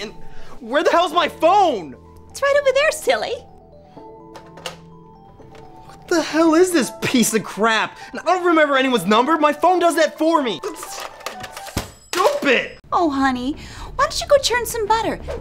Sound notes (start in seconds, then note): none